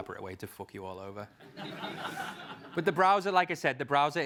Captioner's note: laugh